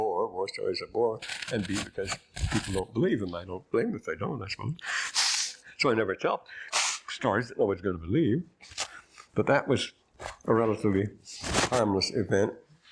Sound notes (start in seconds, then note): 5.0 blowing nose